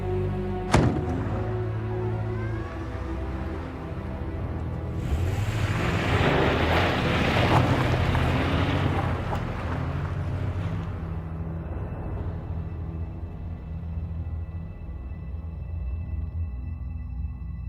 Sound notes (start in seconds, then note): 0.7 door clicking; 5.5 engine revving